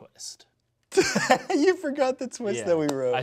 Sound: laughs

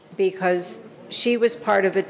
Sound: none

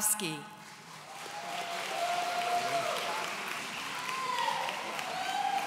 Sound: audience cheering

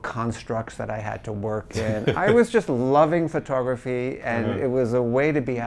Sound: laughs

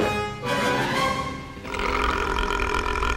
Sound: burping

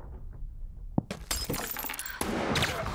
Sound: glass crunches; gunshot

